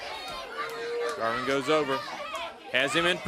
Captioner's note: crowd chatter